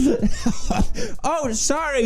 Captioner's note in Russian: умирает от смеха; чуть не задохнулся